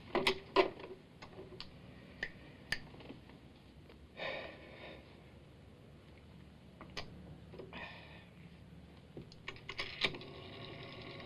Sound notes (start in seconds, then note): 0.1 phone clatters out of receiver; 2.6 snapping; 4.1 sighs; 9.4 dial cranking